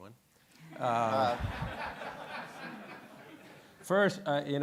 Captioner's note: audience laughing